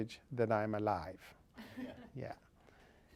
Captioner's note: laugh